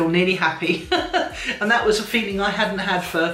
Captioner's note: chuckling